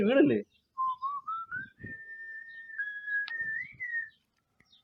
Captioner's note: whistling